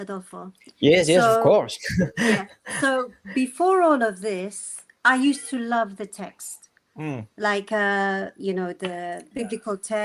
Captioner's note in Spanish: risas